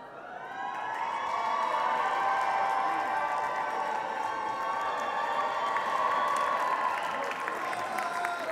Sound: applause

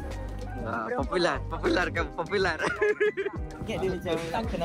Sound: laugh

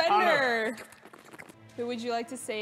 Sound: slurps

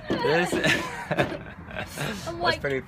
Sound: laughs

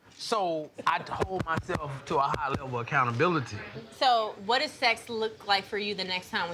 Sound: none

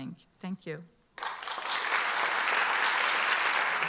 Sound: applause

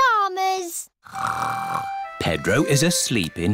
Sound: snores

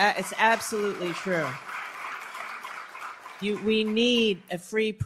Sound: applause

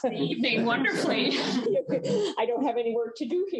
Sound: chuckling

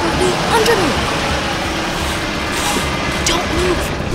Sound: car whizzes past

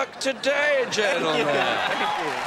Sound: both laugh

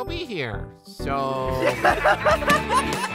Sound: laughter

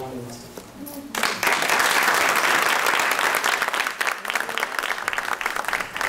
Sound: applause

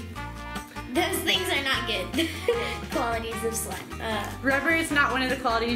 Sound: laughs

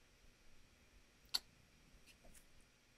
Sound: tongue click

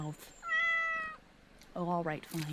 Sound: meows

